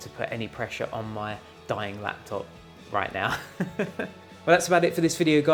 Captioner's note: laughs softly